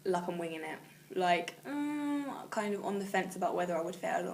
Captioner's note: groans